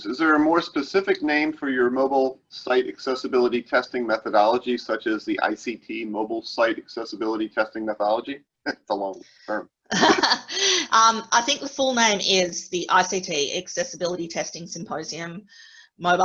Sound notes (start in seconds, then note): 9.9 laughter